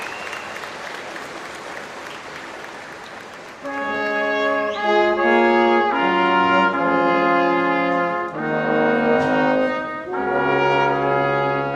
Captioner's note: applause